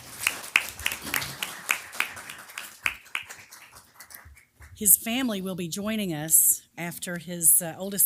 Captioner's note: applause